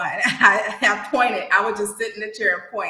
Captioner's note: laughs